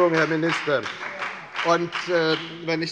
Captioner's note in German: Beifall bei der FDP